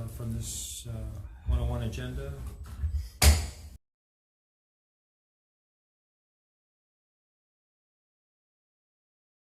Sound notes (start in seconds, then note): 3.2 gavel bangs